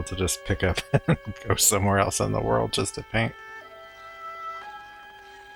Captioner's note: chuckling